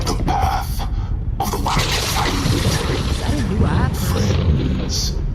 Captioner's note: lightning strikes